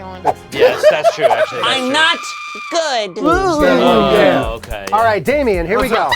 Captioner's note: screaming